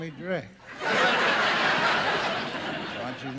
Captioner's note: audience laughing